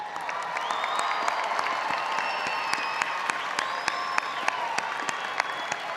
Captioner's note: audience cheering and applauding